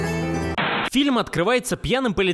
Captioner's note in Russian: звук помех